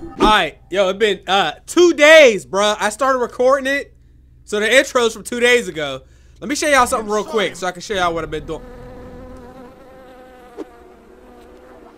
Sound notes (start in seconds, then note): 10.5 fly buzzes